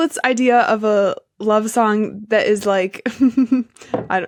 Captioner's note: snickers